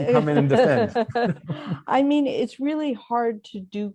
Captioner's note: laughter